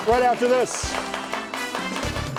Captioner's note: audience clapping; bright upbeat music